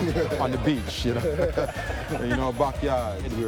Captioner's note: laughs